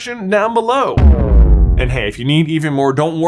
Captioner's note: epic booming